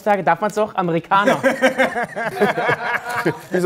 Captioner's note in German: Lachen